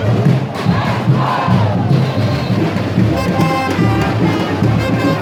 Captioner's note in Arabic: هتاف